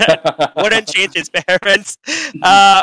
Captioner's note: laughing